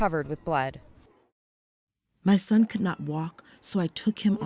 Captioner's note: through translator